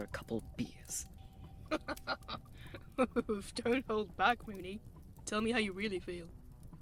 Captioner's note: James laughs